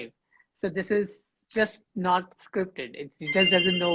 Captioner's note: bell dinging